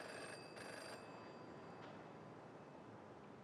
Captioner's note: phone rings